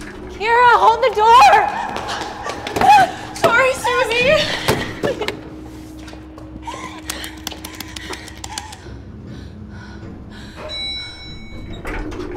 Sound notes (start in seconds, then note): 10.1 elevator stops and dings; 10.1 elevator doors open